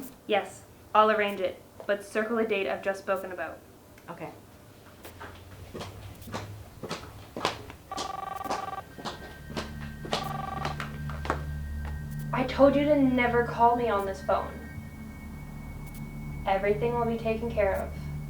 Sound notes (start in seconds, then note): 7.9 cellphone ringing; 8.8 suspenseful music